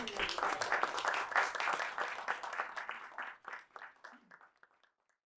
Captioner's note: applause